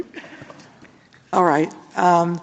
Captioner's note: laughter